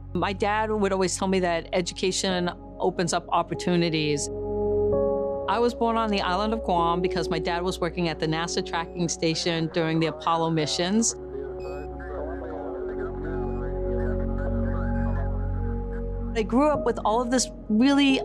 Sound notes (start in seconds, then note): 10.9 Apollo radio traffic